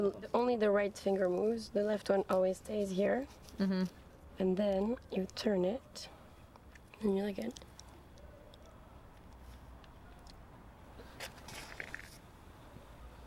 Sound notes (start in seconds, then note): none